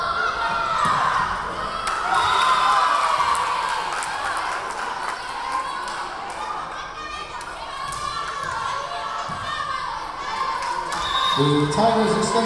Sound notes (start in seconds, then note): 0.2 yelling; 3.0 cheering; 3.0 whistle blowing; 8.1 clapping; 10.7 yelling